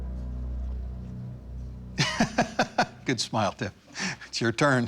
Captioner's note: laughs